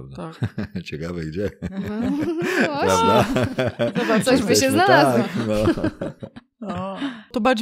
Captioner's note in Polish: śmiech